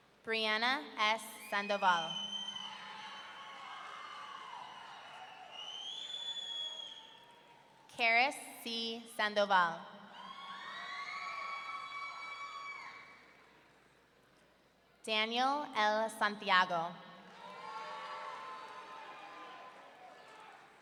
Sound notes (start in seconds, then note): 1.7 audience cheering; 5.2 audience member wolf-whistling; 10.1 audience cheering; 17.3 audience cheering